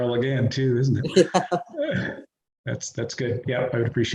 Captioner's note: chuckles